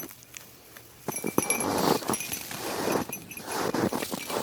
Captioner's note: snow cronch sounds, sheep bells dinglelingling